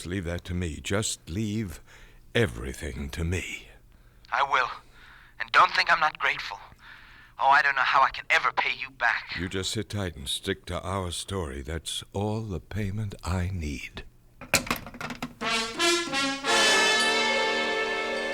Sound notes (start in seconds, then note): 14.4 phone hangs up